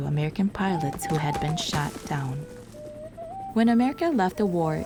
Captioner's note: helicopter whirring